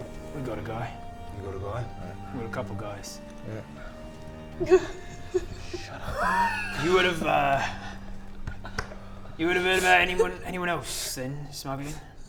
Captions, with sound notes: We got a guy You got a guy? Got a couple guys yeah *unnerved laughter* Shut up You would have er you would have 'eard about anyone else then, smuggling?